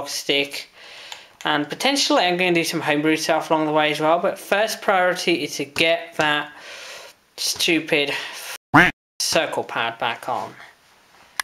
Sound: quack

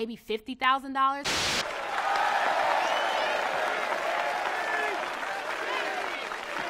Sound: TV static hisses; audience claps and cheers; crowd

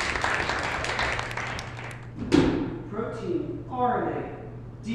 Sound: audience applause; clap

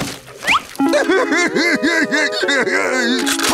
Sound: crying

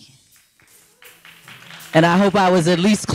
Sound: audience applauding

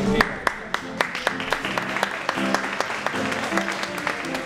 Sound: applause

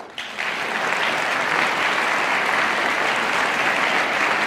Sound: audience applauding

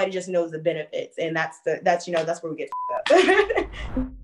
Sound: beep

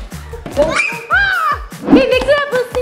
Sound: thudding on slim; screaming

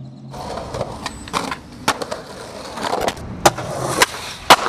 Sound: skateboard rattles

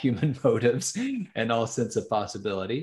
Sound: laughs

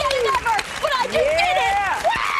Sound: cheers and applause

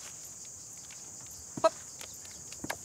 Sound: grunts

